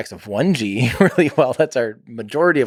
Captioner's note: Tim laughs